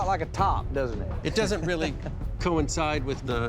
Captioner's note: chuckles